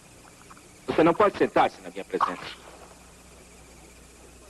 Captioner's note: spits out drink